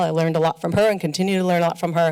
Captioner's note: none